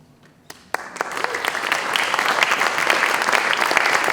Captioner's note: applause